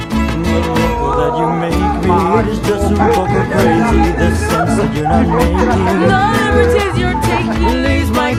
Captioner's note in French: Rires